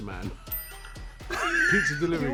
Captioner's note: laughs